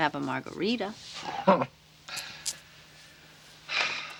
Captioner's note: chuckles